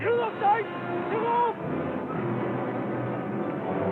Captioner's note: shouting